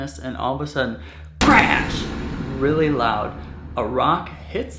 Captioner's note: crash booms